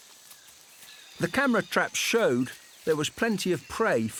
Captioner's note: none